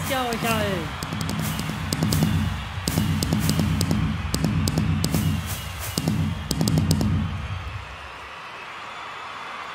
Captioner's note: fireworks